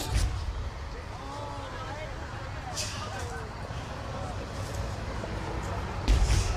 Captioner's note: guests chattering